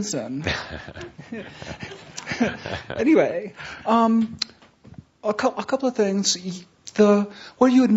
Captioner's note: chuckles